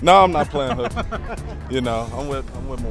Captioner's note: laughing